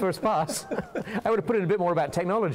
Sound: laughter

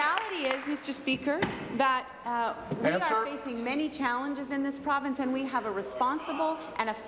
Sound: applause

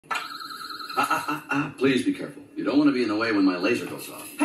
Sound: siren going off

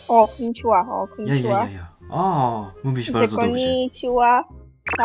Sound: Polish

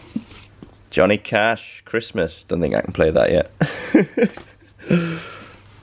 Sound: laughing

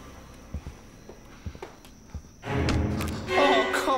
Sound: heavy footsteps; tense music

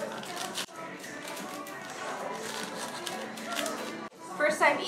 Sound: wrapper crinkles

